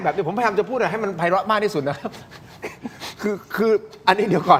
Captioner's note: laughs